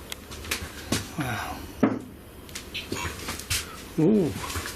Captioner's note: soft knocking